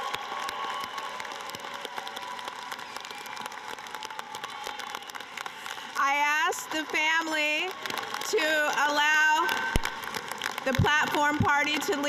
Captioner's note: cheering and applause